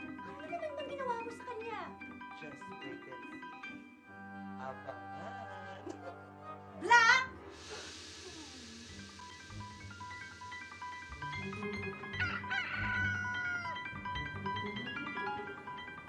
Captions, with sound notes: What did you do this time? Just wait and see. You won't miss it. [chuckles] Black! [rooster cawing]